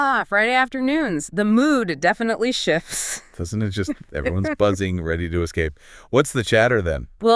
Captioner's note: laughs